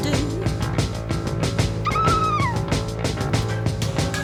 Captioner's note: Anna exclaims